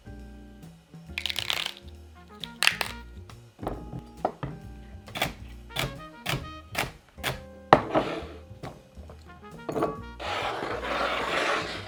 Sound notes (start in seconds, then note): 2.4 stalks peeling; 5.7 knife cutting